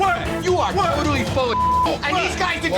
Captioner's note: beep